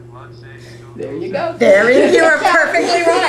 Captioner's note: laughter